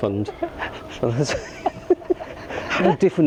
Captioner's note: laughter